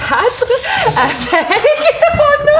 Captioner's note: laughter